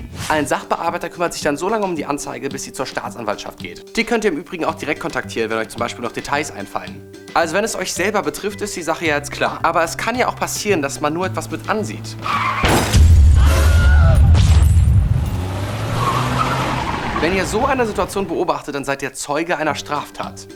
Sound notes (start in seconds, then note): 12.2 Knall, Schreie; 13.5 Fahrzeug rast davon